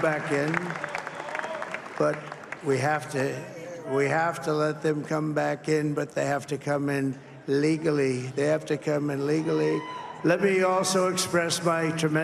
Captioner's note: cheers and applause